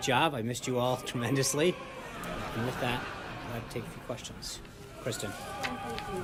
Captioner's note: laugh track